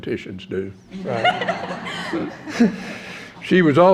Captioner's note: laughter